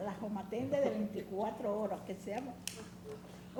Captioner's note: speaking spanish